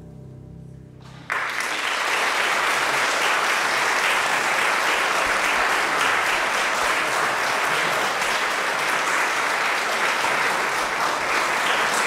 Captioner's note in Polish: oklaski